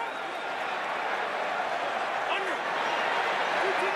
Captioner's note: crowd cheering